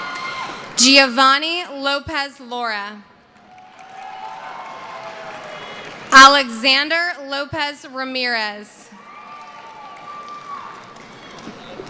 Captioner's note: cheering